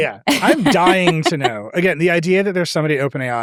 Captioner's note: chuckles